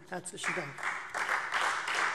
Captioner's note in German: Beifall Freie Demokraten